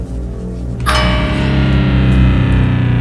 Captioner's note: bang